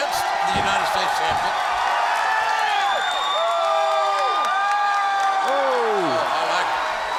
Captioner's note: applause